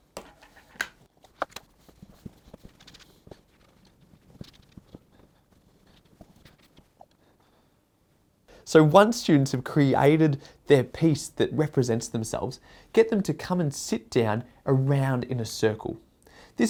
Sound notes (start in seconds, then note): 0.1 lid dropping; 1.2 scratching